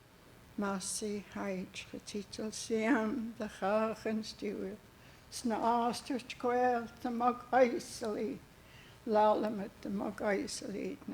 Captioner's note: speaking Hul'q'umi'num